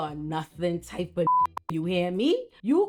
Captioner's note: beep